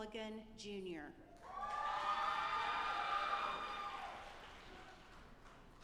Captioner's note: audience applauding